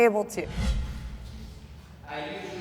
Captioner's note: dramatic whooshing